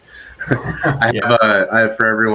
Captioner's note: both laughing